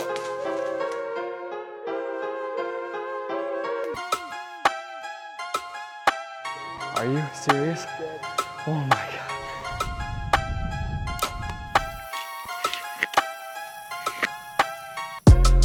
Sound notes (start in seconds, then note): 0.2 arrow whooshes; 9.5 expectant music; 11.3 arrow whooshes